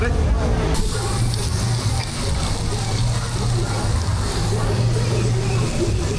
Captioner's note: เสียงหมูย่างที่กำลังสุก